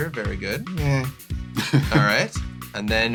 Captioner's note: laughs